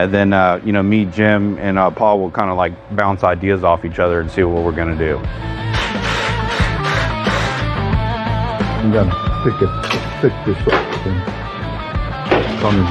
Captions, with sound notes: And en, u kn, me m, a Pauwillind lik boun ide offach other and see what we're going to do. [whirring] p